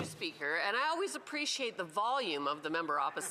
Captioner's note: speaking French